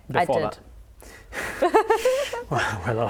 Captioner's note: laughs